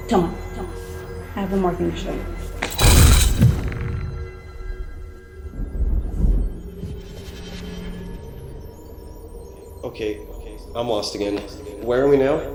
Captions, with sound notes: - Come on. I have one more thing to show you. (lightning striking) (thunder rumbling) - Okay, I'm lost again. Where are we now?